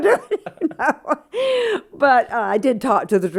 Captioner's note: laughter